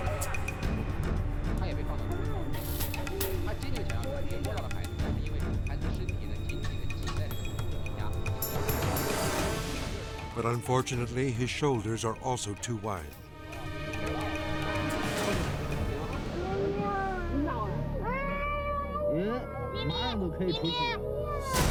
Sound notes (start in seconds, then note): 0.0 intense music continues; 0.3 people chattering in Chinese; 15.6 people speaking in Chinese; 16.4 child crying